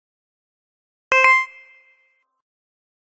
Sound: sound of digital tone

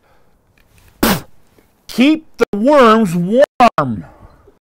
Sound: spits

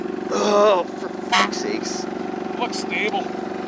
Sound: machine rumbles; honks

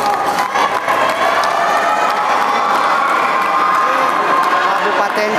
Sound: applause

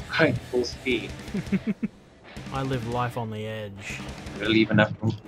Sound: laughter

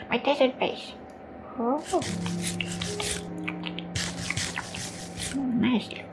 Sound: crunching noises

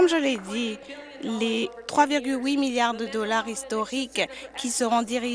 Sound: applause

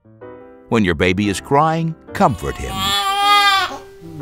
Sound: baby crying

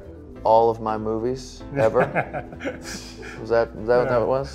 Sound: laughs

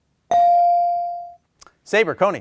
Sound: bell ringing

